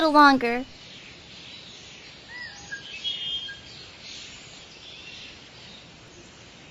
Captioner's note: insects chattering; birds cawing and chirping